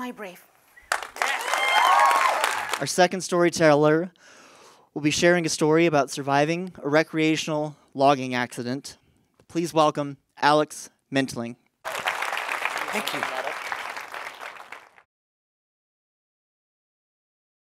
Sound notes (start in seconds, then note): 11.8 applause